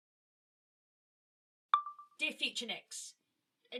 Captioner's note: chime of a phone recorder turning on